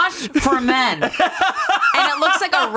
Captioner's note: laughs